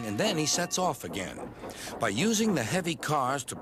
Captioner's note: dings bell